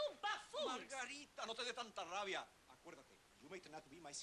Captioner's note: man speaking Spanish